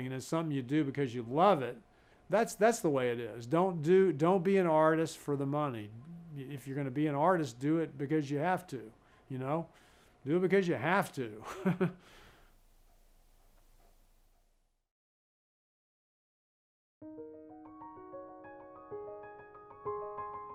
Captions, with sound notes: And it's something you do because you love it. That's the way it is. Don't be an artist for the money. If you're gonna be an artist, do it because you have to. You know do it because you have to! (laughs) (bright piano music)